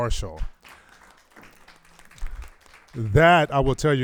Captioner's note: crowd applauding